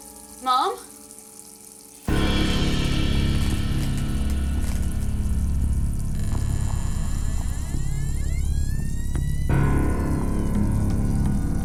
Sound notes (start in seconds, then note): 1.8 suspenseful music; 2.7 electricity buzzes; 5.9 door creaks